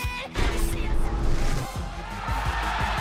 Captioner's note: cheers and applause